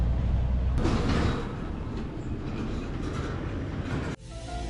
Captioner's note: car's trailer rattling; brooding music